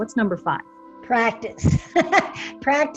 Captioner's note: laughs